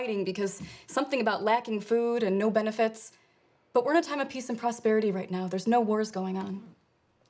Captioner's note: none